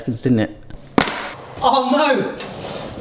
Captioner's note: trivet clacks